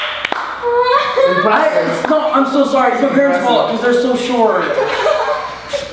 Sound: laughs

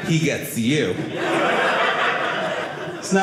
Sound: audience laughing

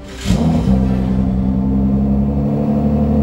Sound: engine roars

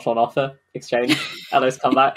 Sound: laughs

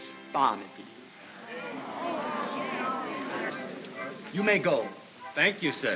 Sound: crowd coos

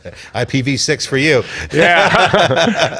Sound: laughing

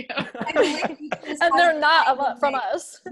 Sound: laughing

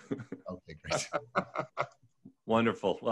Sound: laughs

